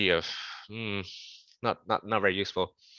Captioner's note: exasperated sigh